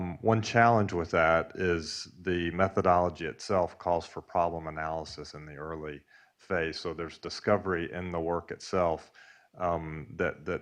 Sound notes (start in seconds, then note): none